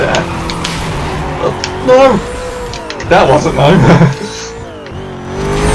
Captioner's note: chuckles